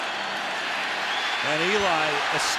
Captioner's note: cheering